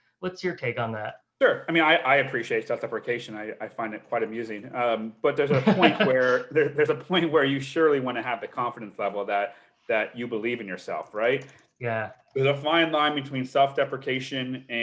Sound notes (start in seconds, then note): 5.2 laughs